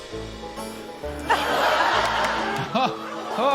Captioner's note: whimsical music; chuckles; laughter